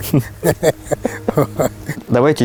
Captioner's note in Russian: смех